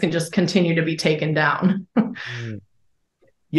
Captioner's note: chuckles